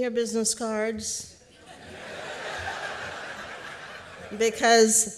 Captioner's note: laughter